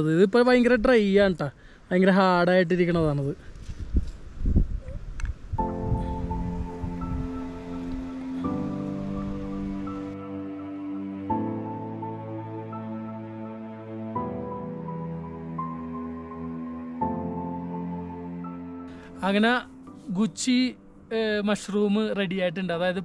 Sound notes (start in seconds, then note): 3.6 breeze